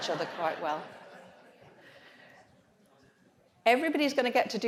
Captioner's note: audience laughs